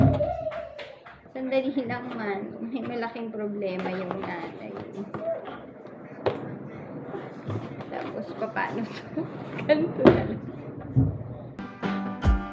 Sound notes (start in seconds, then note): 10.5 laugh